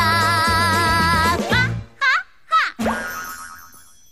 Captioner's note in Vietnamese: Ha! Ha! Ha!